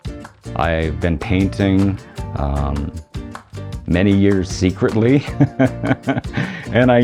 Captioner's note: upbeat music; laughing